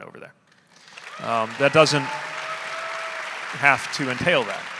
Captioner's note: audience applauding; audience cheering